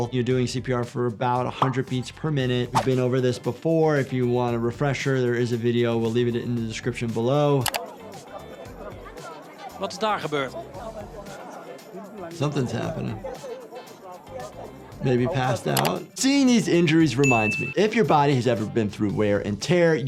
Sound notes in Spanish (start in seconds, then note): 7.6 clics del ratón; 9.8 comentarista hablando idioma extranjero; 15.7 clics del ratón